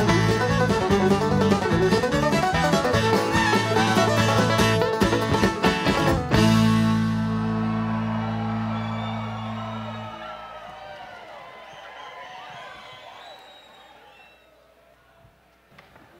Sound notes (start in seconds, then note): 7.2 audience applauds; 8.3 audience cheers